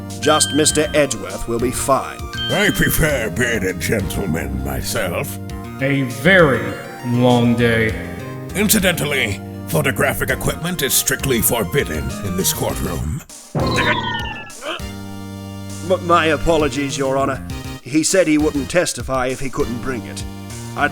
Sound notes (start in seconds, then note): 14.6 frustrated grunt